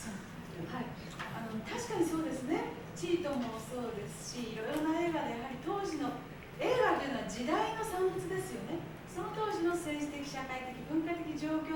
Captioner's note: speaking Japanes